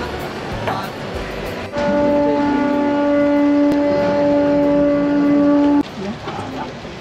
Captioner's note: conch sound